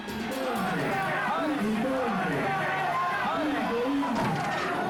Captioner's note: president speaking in foreign language; fans shouting in foreign language; drum slams